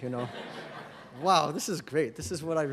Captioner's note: laughter